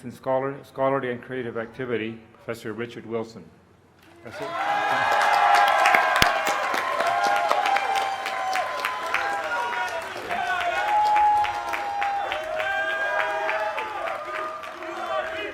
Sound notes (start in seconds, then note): 5.8 cheers and applause